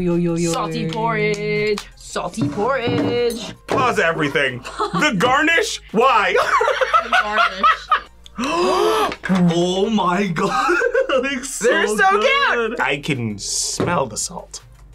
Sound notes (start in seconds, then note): 0.3 sing-song; 6.3 laughs; 8.3 both gasp